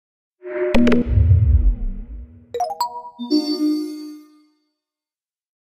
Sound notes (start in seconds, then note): 0.6 air whooshing; 2.5 xylophone trills